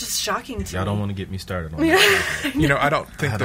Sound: laughs

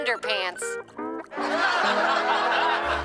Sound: simulated laughter

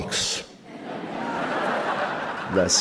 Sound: crowd laughing

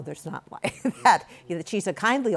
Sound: laughs

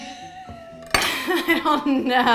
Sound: laughing

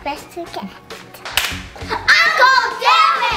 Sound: claps

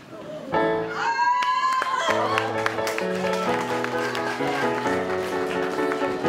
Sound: audience cheering

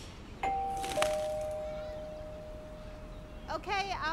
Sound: bird chirps; doorbell rings

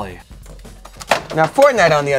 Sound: item hits floor

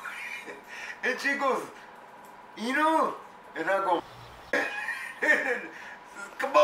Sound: laughs

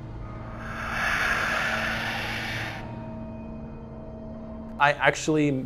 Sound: Father Gascoigne exhaling

